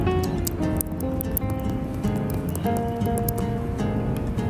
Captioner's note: super crispy crunch